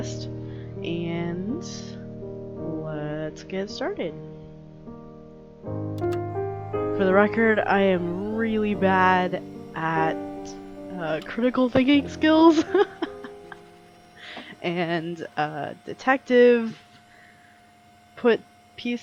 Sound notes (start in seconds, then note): 12.5 laughs